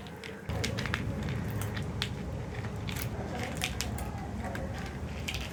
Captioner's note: crunching sounds